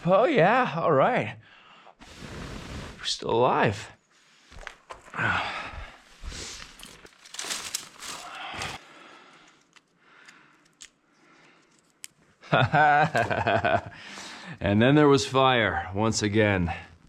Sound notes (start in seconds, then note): 5.3 grunting and adjusting; 12.4 laughs